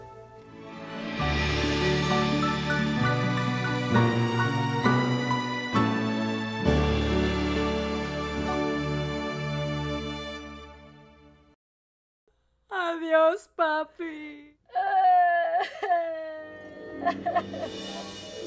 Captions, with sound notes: [theme music] Goodbye Grampa. [Veronica cries]